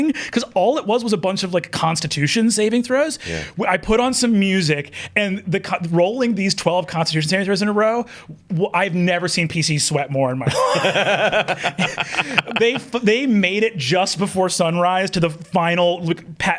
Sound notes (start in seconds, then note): 10.4 laughs; 10.4 chuckles